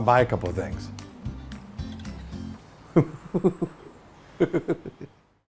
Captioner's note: laughs